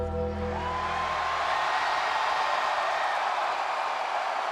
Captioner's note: crowd cheering